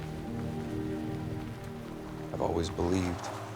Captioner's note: oliver, reading